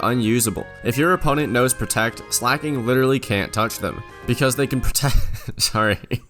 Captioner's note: laughs